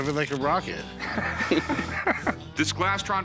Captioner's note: laughter